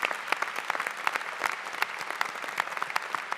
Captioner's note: applause